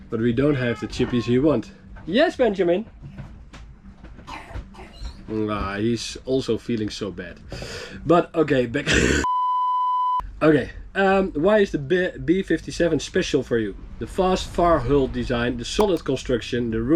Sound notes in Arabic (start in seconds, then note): 8.8 سعال